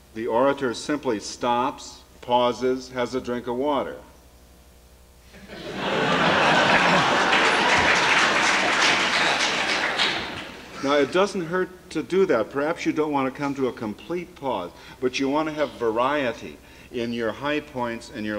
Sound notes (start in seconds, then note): 5.3 laughter; 7.4 applause